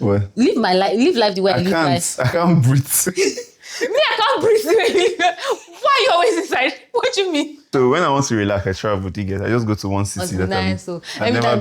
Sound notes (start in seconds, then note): 3.0 laughs